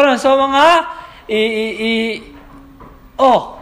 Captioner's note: stutters